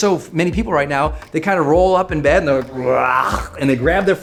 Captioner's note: gagging